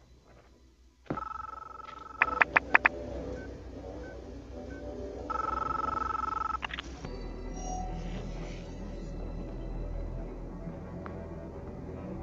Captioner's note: phone ringing